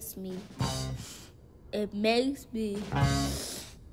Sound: sniffles

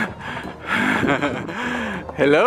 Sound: laughing

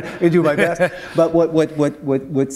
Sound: laughter

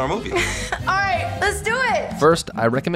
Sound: giggles

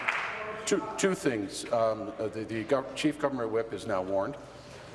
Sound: applause

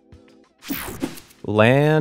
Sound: screen whooshing

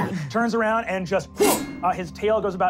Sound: squealing; metallic clash

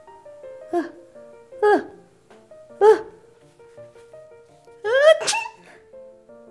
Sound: sneezes

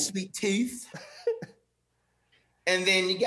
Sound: laughing

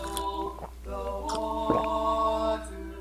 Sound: sipping sound

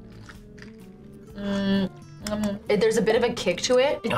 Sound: smacks lips

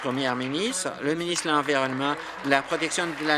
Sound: applause

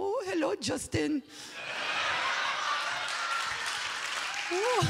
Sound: audience laughing

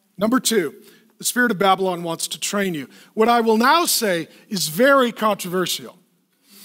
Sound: none

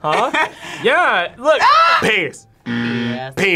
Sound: screams

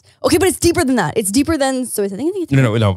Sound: faintly speaking

